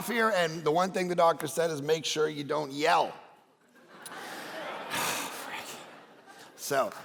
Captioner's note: congregation laughing